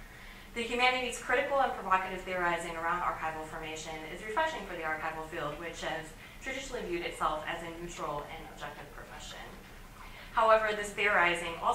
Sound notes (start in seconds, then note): none